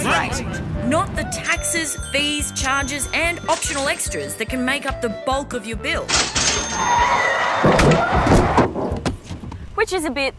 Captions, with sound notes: Not the taxes, fees, charges and optional extras that can make up the bulk of your bill. (Tyres squeal) Which is a bit like doing this -